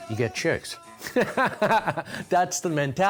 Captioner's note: laughing